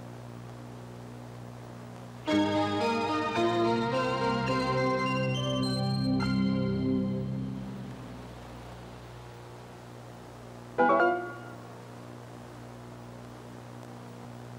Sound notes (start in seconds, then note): 10.6 ding!